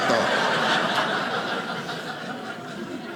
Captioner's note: audience laughing